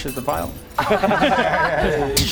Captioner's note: ironically successful laughter